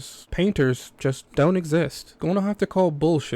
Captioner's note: sarcastically